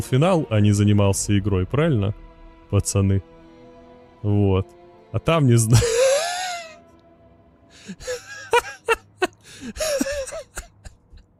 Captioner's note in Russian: смех